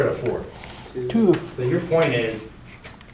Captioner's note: voiceover